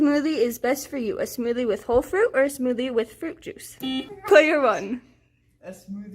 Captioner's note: buzzer sound